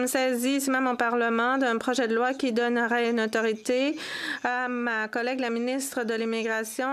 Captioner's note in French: voix de l'interprète